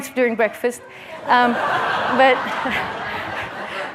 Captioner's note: laughter